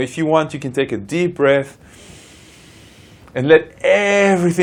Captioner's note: breaths in deeply